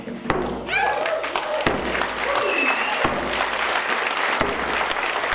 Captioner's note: group clapping